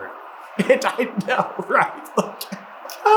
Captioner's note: cracking up